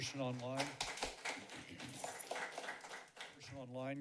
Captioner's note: applause